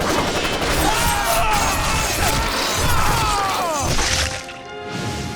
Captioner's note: gunfire; screaming